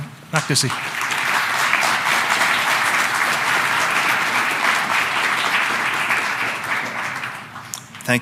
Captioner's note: applause